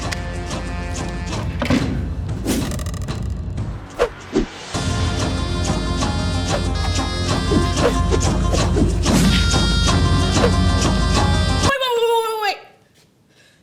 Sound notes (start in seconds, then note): 2.4 boing; 3.9 wooshing; 7.3 kicks wooshing